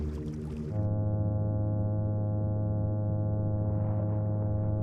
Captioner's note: droning hum